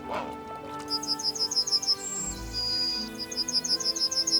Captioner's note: bird chirping